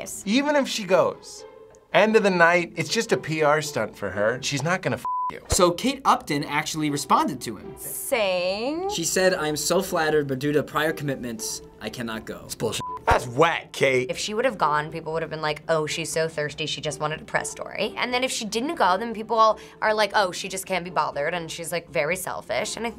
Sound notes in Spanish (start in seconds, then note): 5.0 pitido; 12.8 pitido